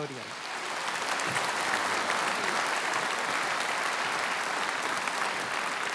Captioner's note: applause